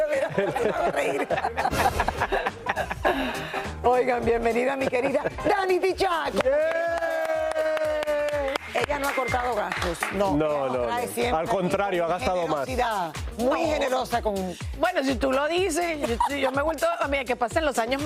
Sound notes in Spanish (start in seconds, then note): 3.4 ríen; 8.3 ovación